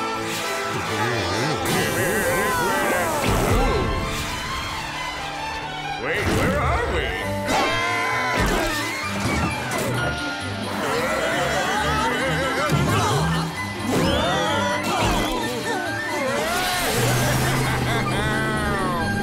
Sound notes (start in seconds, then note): 7.6 all screaming; 10.4 all shouting; 15.4 Plankton laughing